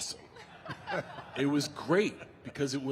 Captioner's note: The Undertaker and Michelle laughing